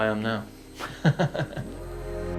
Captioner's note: laughs; mellow electronic music